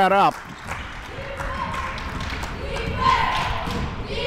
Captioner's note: cheering